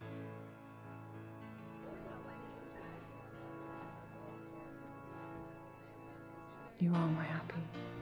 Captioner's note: background chatter